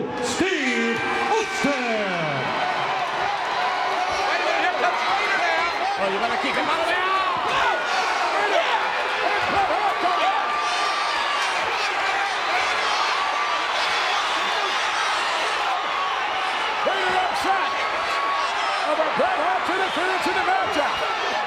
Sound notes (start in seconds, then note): 0.2 applause; 8.6 applause